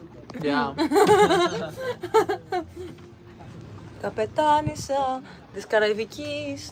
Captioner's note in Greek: γέλια